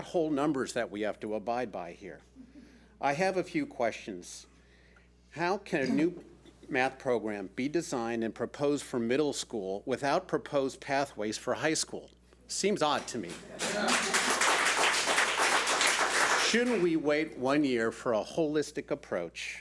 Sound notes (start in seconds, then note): 14.9 public applauding